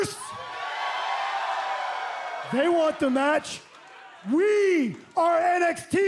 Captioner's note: cheers and applause